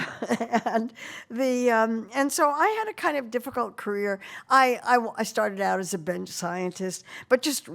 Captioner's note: laughing